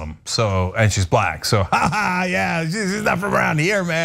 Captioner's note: laugh